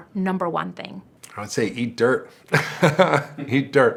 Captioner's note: laughs